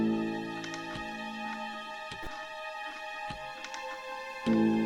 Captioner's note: chair creaks rhythmically